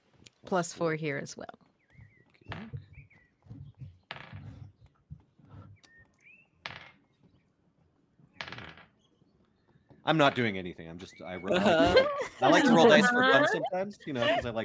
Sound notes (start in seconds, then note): 2.6 dice rolling faintly; 11.4 all laugh